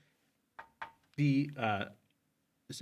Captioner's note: marker taps